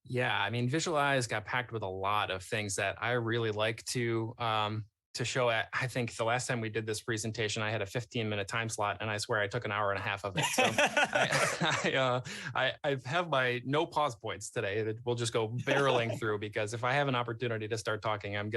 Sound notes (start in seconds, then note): 10.1 laughs